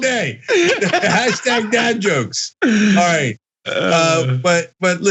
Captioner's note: laugh